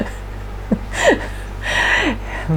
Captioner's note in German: lacht